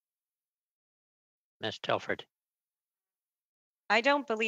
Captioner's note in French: voix de l'interprète